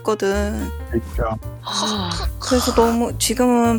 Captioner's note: surprised